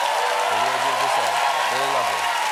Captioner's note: cheers and applause